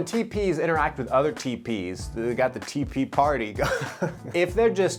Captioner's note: giggles